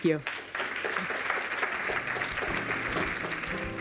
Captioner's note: applause